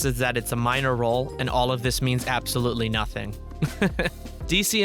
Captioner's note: laughs